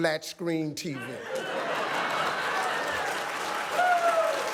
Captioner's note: audience clapping and cheering loudly